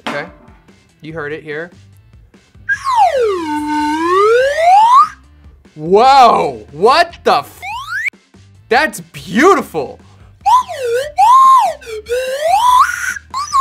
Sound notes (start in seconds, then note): 2.6 whistle slides; 10.4 whistle slides